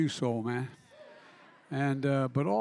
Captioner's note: laughter